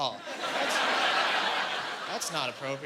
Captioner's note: laughing